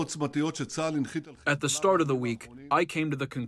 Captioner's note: through translator